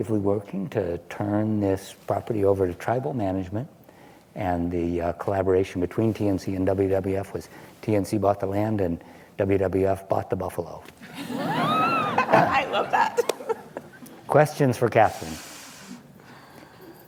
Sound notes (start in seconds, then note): 11.0 laughs